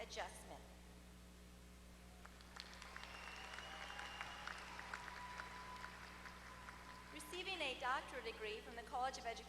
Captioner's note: applause